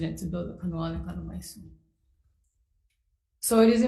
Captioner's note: speaks foreign language